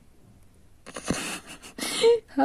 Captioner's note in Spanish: risa